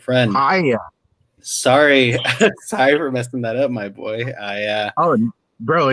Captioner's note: laughs